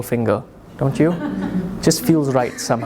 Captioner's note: audience chuckles